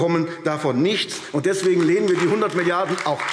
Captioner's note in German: Beifall AfD